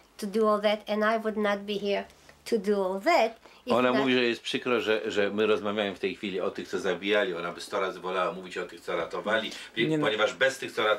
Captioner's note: speaking Polish; answering in Polish